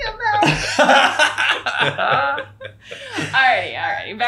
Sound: laughing

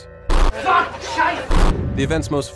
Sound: SFX: Participants screaming in agony

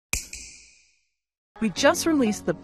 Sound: snap

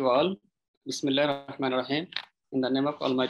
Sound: speaks in foreign language

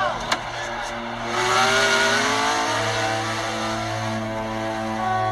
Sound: engine

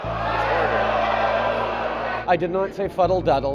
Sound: oohing

